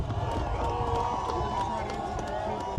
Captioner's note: cheering